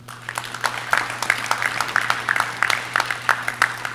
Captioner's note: audience cheering